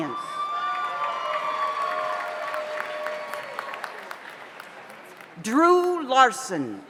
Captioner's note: audience cheers; audience applauds